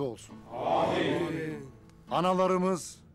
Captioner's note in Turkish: Hep bir ağızdan